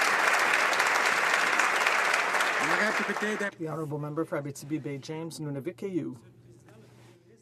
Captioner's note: some Applause